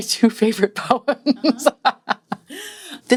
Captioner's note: laughs